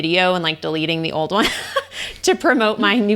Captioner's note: laughing